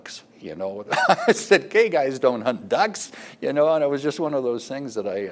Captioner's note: laughs